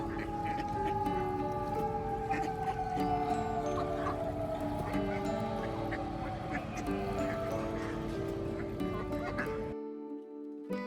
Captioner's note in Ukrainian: лунає повітряна тривога